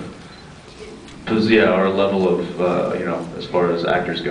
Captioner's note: off mic